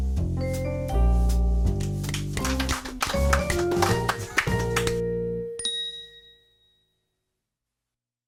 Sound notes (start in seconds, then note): 1.2 upbeat music; 2.1 audience applause; 3.3 upbeat music